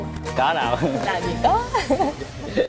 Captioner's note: laughing